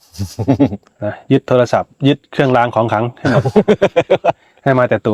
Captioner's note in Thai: เสียงหัวเราะ